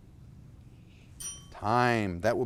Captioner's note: bell ringing